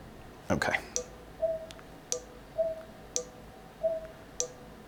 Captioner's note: soft beeping